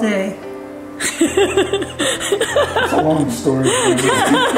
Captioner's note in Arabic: يضحك